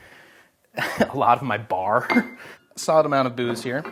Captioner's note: laughs